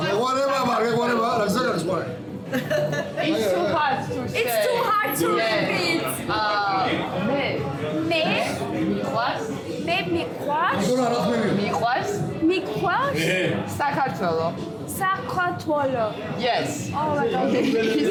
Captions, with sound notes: [speaking Georgian] – It's too hard to say … – It's too hard to repeat …? [speaking Georgian] – Yes! – Oh my good …